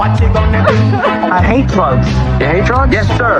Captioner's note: cryining